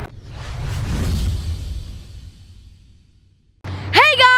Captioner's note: intense swiping